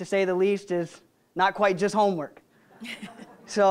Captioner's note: audience laughing